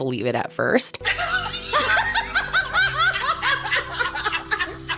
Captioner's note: woman laughing